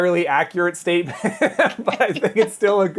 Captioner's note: laugh